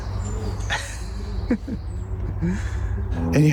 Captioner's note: laughs